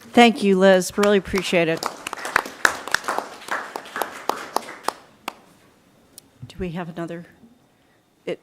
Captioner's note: applause